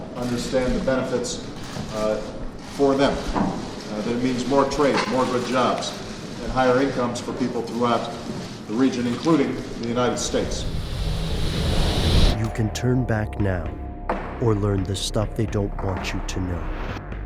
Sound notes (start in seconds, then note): 12.7 voiceover; 16.6 eerie music